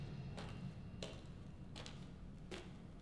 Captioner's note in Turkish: Ayak sesleri